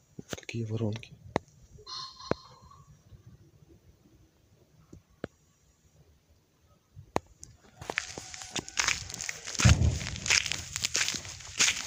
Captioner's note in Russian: Стрельба